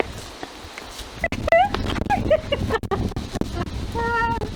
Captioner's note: laughter